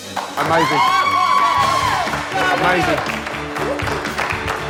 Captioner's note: cheers and applause